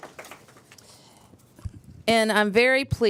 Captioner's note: applause